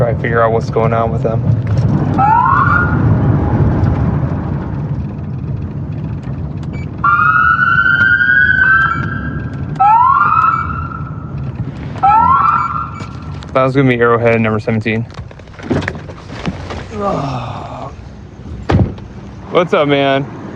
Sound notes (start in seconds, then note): 7.0 sirenwail